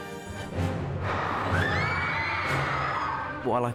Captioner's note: students scream